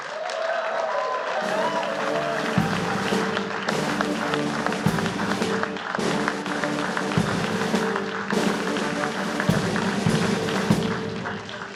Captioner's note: applause